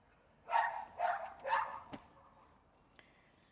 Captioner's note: ruff, ruff, ruff... woof